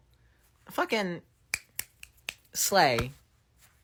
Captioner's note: snaps